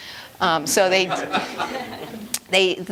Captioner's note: laughter